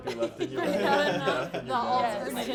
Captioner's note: laughing